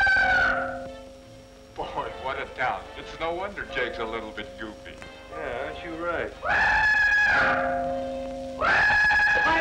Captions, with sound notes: Boy, what a town, it's no wonder Jake's a little bity Yeah, aren't you right. [whistling] If I'm telling you one thing, I'm